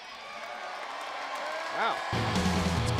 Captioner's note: crowd cheering